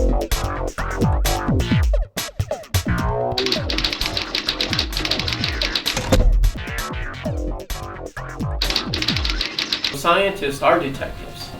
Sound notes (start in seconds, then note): 3.4 sound of typing; 8.6 typing